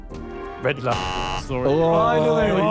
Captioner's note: buzzer buzzes